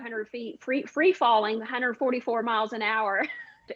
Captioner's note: chuckles